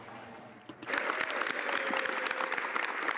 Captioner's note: speaking French